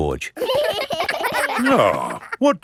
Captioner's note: giggling